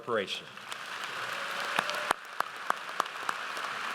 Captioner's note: audience applauds